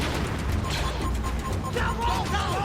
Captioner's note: blaster fires; console beeps